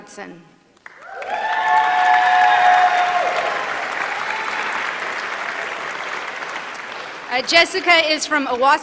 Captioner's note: applause